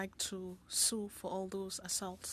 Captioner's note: speaking French